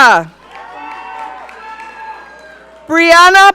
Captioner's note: audience cheering